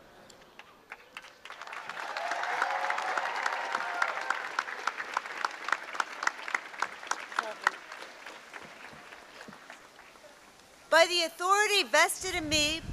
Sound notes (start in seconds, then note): 0.4 applause